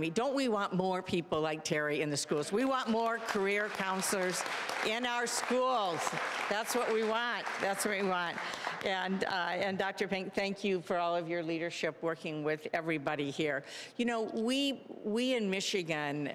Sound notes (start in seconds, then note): 2.3 applause; 5.8 applause